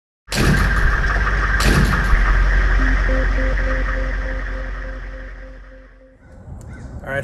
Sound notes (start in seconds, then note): 0.5 idling hmmwv engine, radio waves sound effect